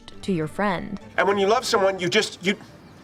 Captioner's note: enthusiastically